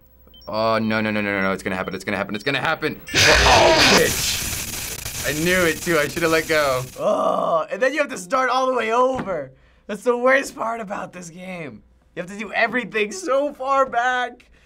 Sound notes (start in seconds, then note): 3.0 abrupt screeching; 6.9 growls